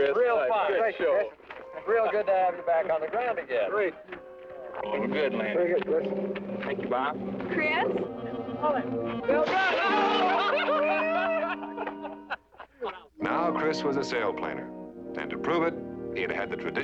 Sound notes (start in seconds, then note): 9.2 laughter